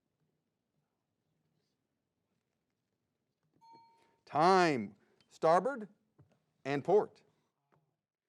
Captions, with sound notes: (bell dings) Time. Starboard and port.